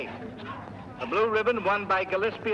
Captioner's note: man over P.A